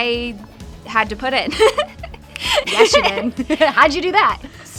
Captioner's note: laughs